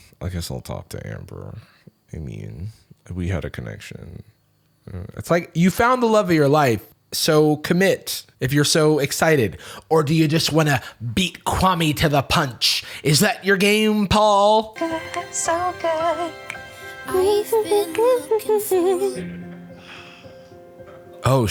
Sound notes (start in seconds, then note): 15.0 singing; 18.7 hums; 19.6 romantic Music